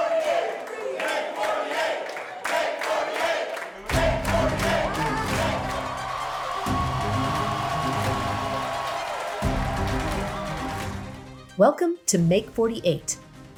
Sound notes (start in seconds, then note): 4.0 exciting music; 6.3 people cheering